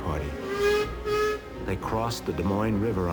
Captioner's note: train horn toots